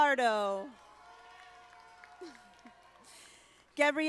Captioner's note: audience applauding